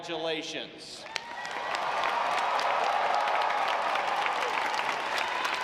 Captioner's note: audience applauds